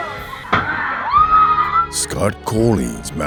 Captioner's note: screams